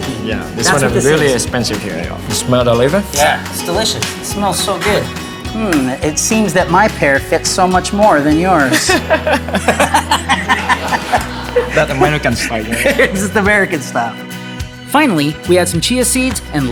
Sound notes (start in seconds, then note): 8.6 laughing